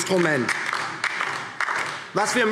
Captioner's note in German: Beifall DIE LINKE